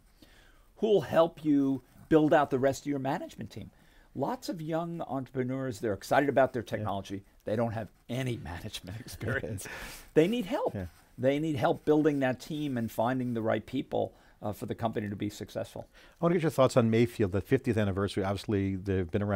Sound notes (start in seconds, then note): 8.8 laughing